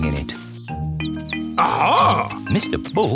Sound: chirping

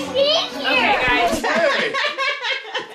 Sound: record scratching; laughs

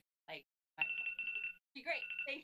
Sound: audio cuts; clock ringing

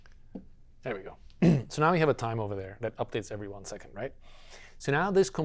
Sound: cough

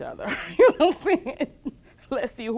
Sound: laughs

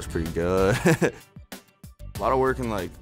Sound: laughs

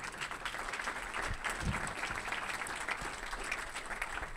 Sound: audience applauding

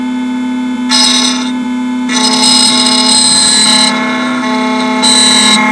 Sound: machine and key grinding

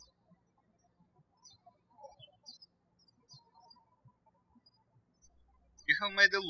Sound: birds chirping

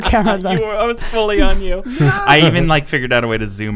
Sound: laughing

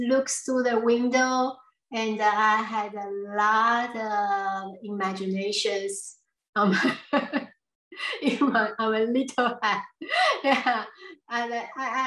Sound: laughs

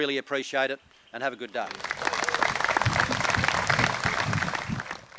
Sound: applause

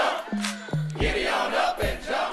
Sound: cast claps once

